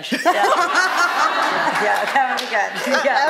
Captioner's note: laughter